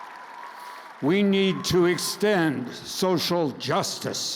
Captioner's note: crowd cheers